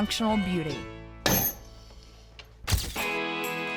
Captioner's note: stamping